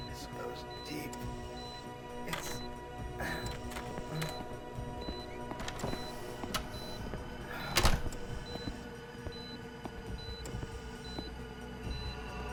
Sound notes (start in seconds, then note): 3.4 door clicks open; 7.6 door clicks shut; 9.4 hospital monitor beeping